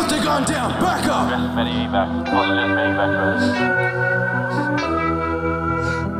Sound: police radio chattering

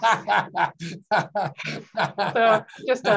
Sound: laughing

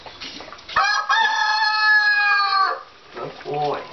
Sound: crowing

